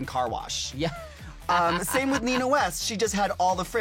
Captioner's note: laughs